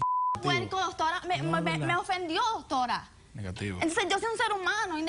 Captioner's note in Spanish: Bip